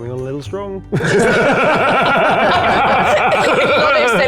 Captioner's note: players laughing